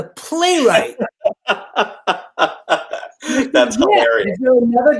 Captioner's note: laughing delightedly